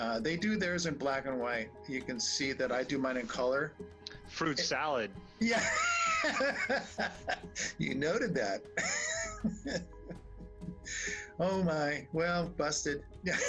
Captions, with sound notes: They do theirs in black and white. You can see that I do mine in color. - Fruit salad. - Yeah. (laughs) You noted that. (laughs) Oh, my, well, busted.